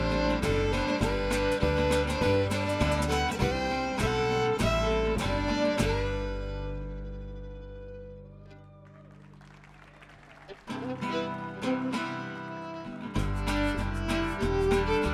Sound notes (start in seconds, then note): 8.4 audience applauding; 10.4 lively folk music